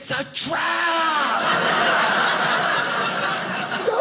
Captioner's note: audience laughing